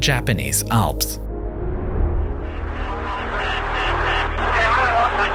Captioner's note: plane whooshing; warning beeping